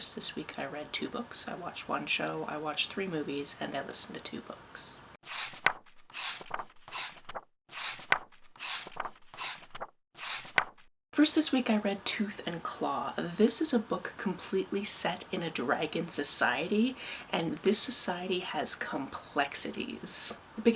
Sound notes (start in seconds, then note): 5.2 pages turning